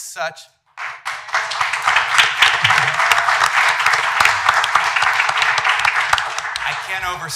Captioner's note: applause